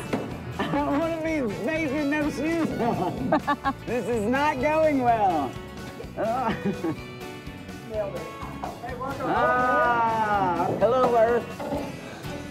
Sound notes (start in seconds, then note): 1.8 laughing